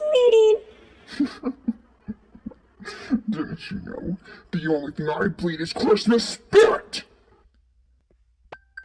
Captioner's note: chuckle